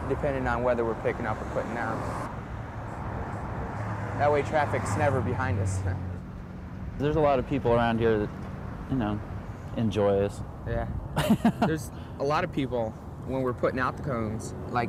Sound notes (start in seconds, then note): 11.2 laughs